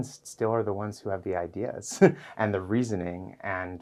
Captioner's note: chuckles